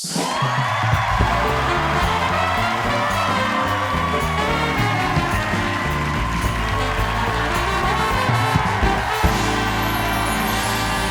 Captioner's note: cheers and applause